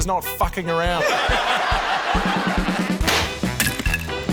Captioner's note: laughter; pop!